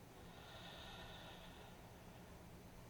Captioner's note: exhales